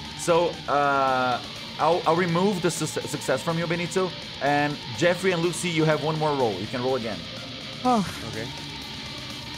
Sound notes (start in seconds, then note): 7.8 sighs